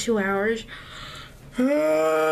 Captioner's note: yawn